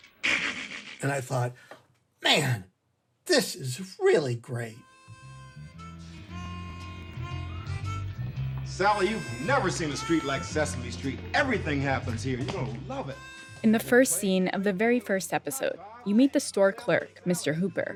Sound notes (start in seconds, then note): 4.8 soundbite of tv show, "sesame street"